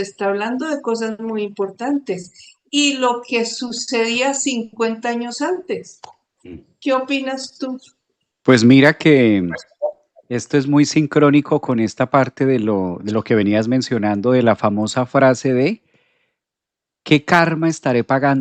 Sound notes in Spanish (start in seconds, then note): 6.4 carraspeo